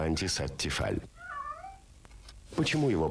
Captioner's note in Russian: кошка мяукает